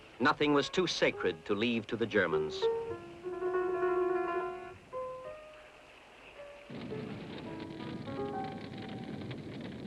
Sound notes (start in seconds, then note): 4.3 flames crackling; 4.3 melancholic piano music